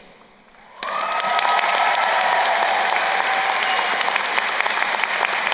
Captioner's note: crowd cheering and applauding